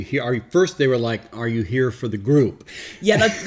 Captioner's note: laughs